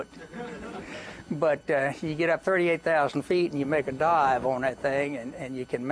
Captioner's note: laughter